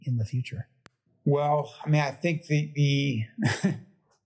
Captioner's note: laugh